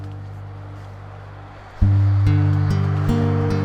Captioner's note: road ambience